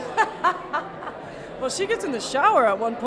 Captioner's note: laughing